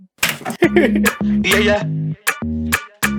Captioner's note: laughs